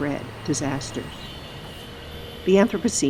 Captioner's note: bells and horns blaring